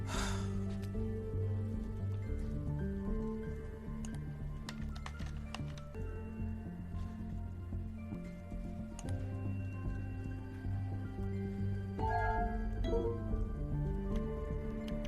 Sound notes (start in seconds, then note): 0.0 sighs; 12.6 chimes